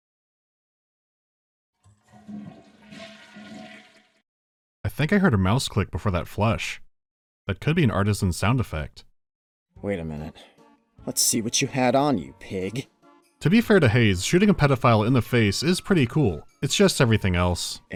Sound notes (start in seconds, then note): 1.8 toilet flushing